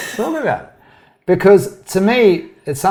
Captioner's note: laughs